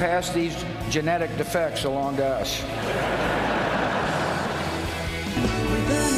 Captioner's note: laughter